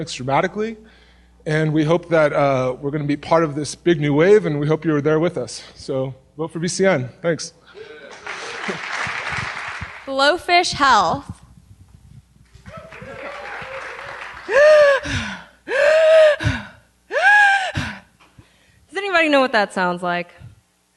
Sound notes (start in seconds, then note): 8.0 applause; 12.5 applause; 14.4 gasping